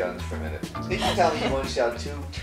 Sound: voiceover

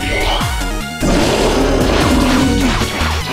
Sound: Screams in OU

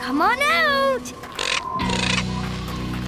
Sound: squawking

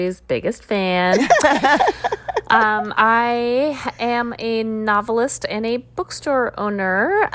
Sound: laughter

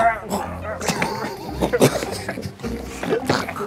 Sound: huff of laughter

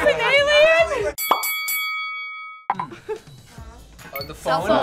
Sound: boxing bell rings

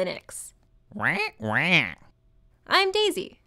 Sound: approving squawks

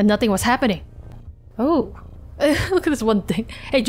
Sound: laughs

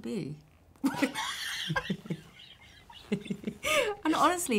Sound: laughing

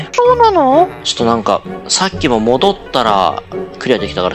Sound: surprised reax

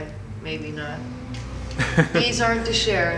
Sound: interviewer laughs

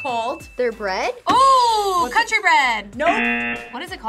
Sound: buzzer; buzzer rings

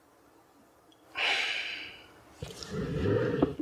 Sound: sighs

